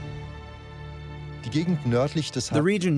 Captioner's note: speaking German